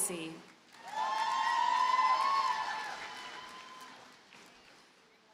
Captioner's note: audience cheers and applauds